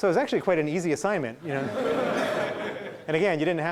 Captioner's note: laughing